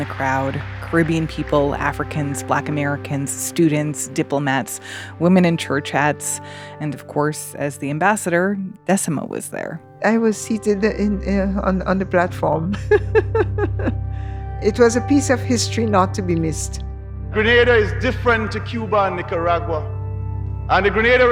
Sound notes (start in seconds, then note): 0.0 applause; 12.7 laughter; 17.3 soundbite of archived recording